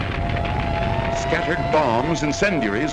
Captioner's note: alarm blaring